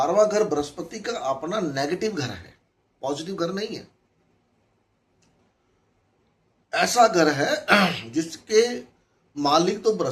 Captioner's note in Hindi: गला साफ़ करने की आवाज़